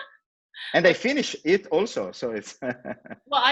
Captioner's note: laughs